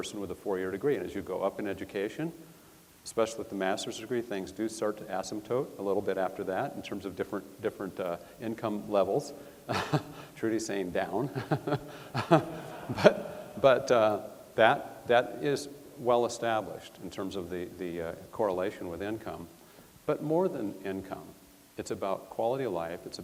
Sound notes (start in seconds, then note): 11.0 chuckles; 11.3 audience laughs